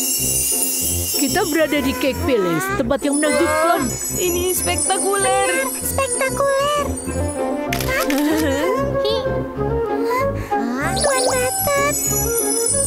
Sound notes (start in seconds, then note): 0.1 upbeat instrumental music; 7.7 camera clicks